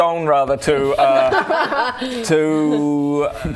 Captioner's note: non-anachronistic laughter